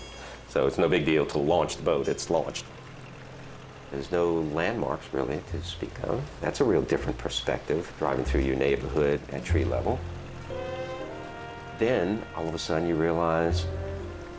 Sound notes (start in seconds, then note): 2.3 motor rumbling